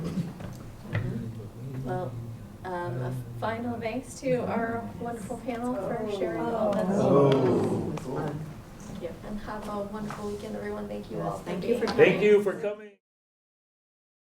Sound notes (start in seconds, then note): 7.7 non-english